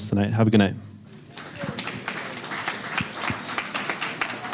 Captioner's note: applause